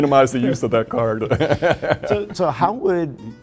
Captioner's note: laughter